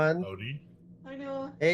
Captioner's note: various people greet